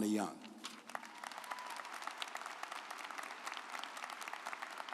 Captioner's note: audience applauds